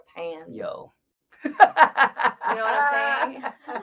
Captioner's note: laughs